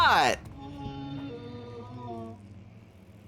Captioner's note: pained monster groan